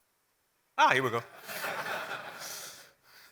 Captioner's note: laugh